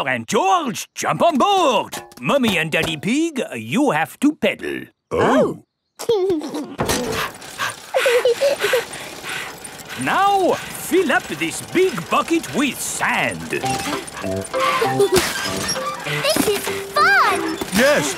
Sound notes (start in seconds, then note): 6.1 chuckles; 6.3 daddy pig panting; 8.2 mummy pig panting; 8.2 peppa chuckles; 14.5 mummy and daddy pig panting; 14.5 peppa and george laughing